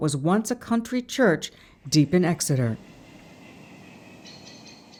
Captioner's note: animals chattering